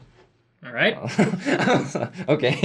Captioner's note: laughs